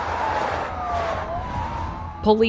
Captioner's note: sirens wailing